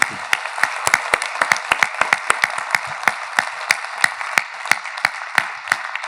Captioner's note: audience applauding continues